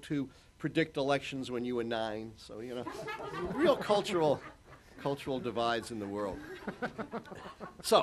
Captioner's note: laughter